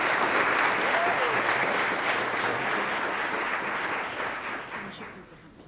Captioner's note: attendees applauding